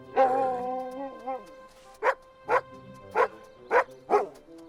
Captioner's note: Buck barking